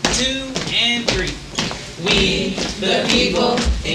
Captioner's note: feet stomping